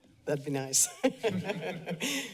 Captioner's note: laughter